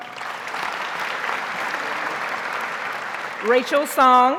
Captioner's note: audience applauds